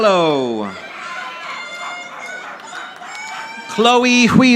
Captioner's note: audience applauding